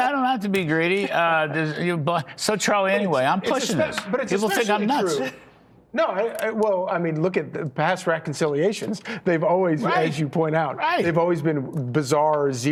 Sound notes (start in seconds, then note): 5.7 laughter